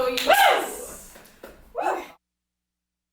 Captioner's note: whooping; everyone cheering, applauding